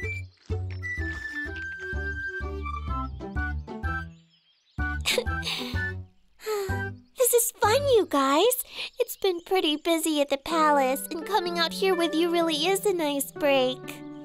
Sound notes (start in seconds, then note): 5.0 giggles; 5.1 sighs